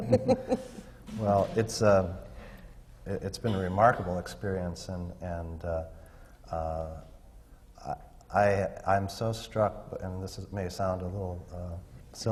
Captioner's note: laughs